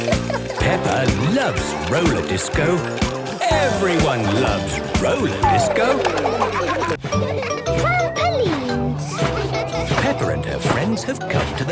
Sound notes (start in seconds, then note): 0.0 snorting; 5.3 laughter